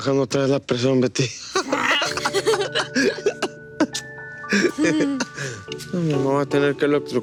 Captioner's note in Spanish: Risas